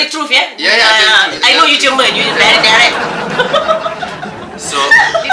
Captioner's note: laugh